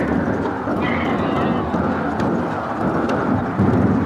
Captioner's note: donkey braying